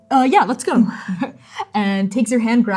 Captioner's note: awkward agreement noises